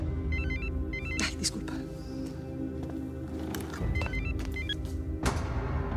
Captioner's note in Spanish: suena el teléfono